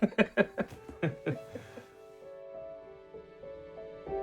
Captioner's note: laughter